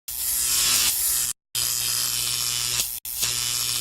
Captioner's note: electric buzzing sound